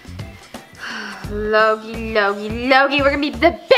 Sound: sighs

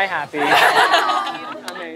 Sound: laughing

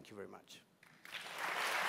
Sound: applause

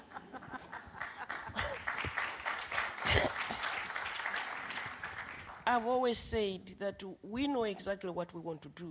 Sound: laughter and applause

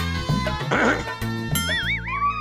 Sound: clears throat

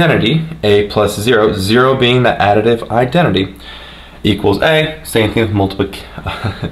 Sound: laughing

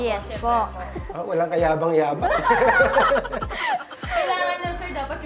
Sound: laugh

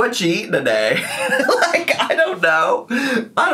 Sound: laughs

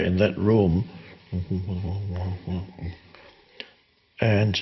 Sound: Eckhart humming

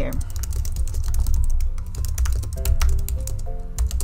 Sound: keyboard typing

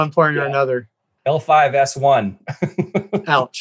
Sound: chuckles

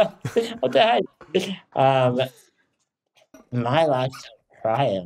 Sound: chuckles

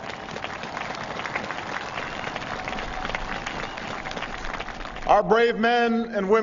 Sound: applause

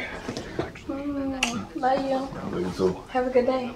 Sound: kisses

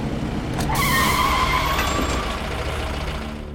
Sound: brakes squeal

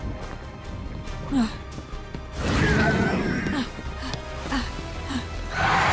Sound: Demogorgon screeching; grunting; Demogorgon screeching

